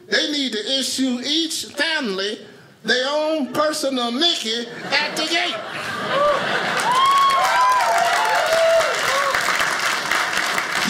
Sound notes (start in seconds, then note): 4.6 audience laughing; 5.6 audience cheers; 6.1 audience applauding